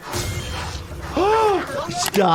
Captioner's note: gasping